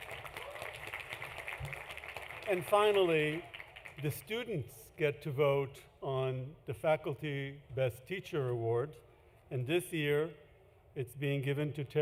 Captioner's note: applause